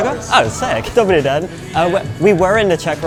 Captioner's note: in Czech